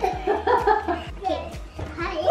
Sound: laughs

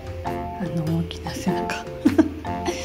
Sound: laughs

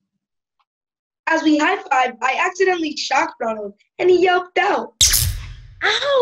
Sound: zap

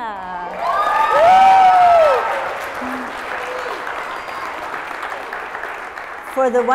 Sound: applause

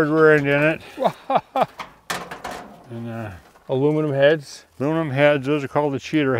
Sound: laughs

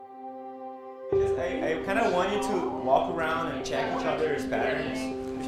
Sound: chatter

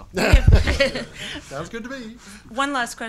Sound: laughs

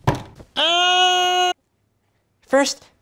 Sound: yelling

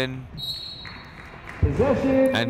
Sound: whistle blowing

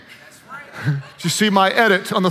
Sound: audience laughs

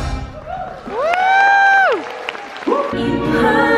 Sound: crowd cheers and claps

